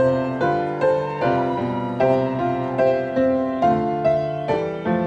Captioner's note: audience cheering